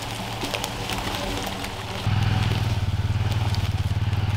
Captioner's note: brush rustling